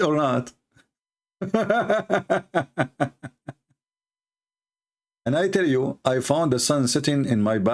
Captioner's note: Ketawa